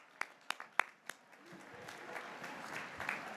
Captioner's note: graduates cheering